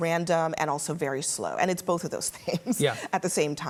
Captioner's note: laughs